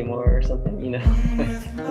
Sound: chuckles

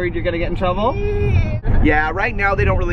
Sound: giggles

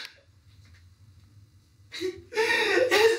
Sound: both sob

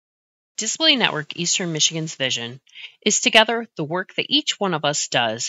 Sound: voiceover

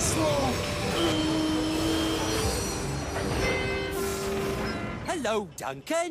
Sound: rusty sounds horn

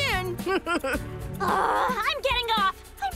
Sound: chuckles

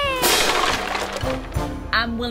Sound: crashing

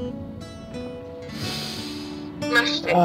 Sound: sniffs

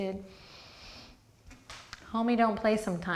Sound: deep breath

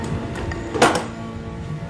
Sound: thumping

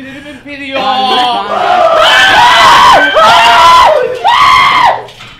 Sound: screams

